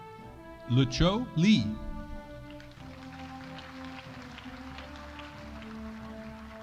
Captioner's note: audience applauding